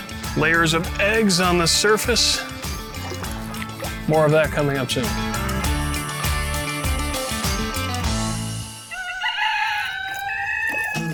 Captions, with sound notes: Layers of eggs on the surface. More of that coming up soon. [insects buzzing] [rooster crows]